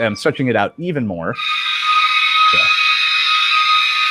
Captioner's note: long high pitch squeaking